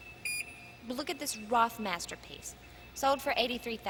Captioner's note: beeping